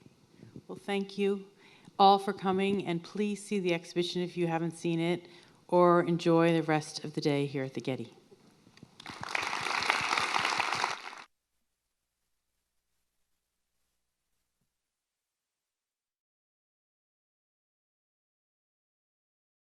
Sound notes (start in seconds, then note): 9.0 audience clapping